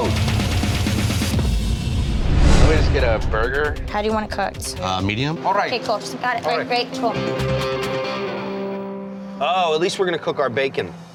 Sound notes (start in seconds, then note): 1.8 scene whooshing; 7.6 upbeat music